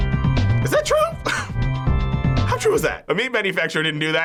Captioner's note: chuckles